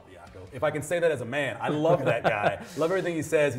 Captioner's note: laughter